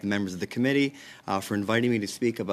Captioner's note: speaking French